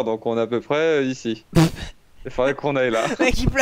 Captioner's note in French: rire